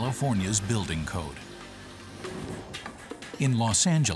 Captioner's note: swoosh